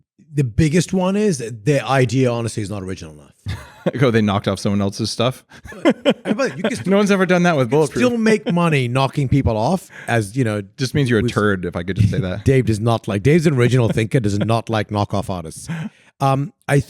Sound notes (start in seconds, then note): 5.5 laughing